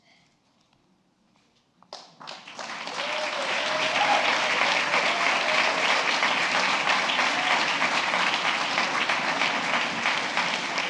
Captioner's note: applause